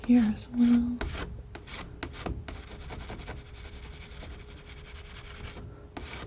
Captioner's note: scratching